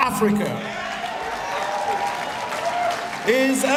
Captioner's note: applause